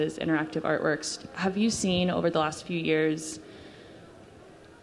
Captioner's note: none